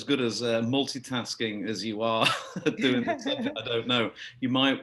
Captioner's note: laugh; laughing